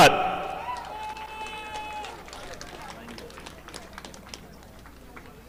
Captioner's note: audience applauding